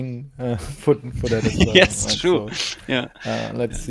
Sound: laughs

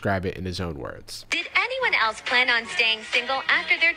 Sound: voiceover

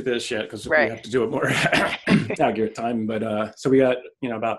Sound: clears throat

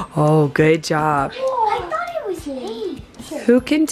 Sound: gasps

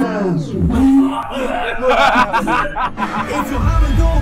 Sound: vomit sounds

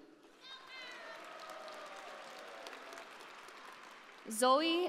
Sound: audience applauding

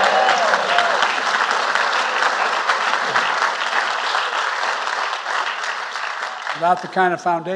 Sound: applause

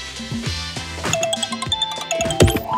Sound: incoming call

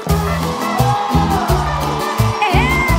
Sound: Banda completa gritos y aplausos

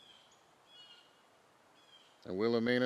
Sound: birds chirping

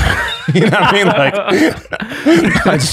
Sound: all laughing

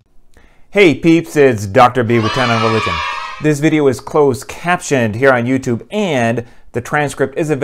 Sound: kids cheering

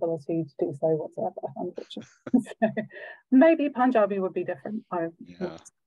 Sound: laughs

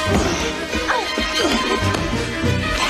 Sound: both grunting

